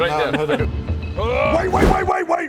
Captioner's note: hrrrgh!